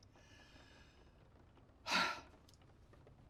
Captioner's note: sighs